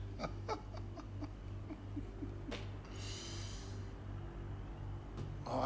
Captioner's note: Susan laughing